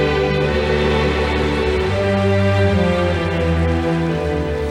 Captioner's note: audience applauding